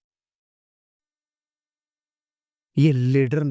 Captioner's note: silence